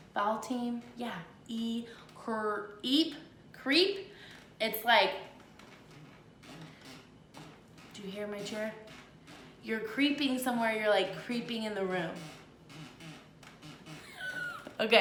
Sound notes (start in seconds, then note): 5.2 chair creaks; 14.0 laughs